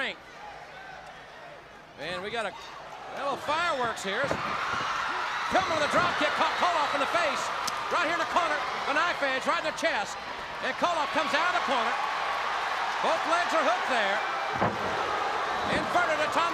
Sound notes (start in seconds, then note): 5.5 crowd cheering